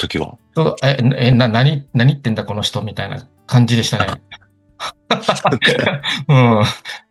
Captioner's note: laughs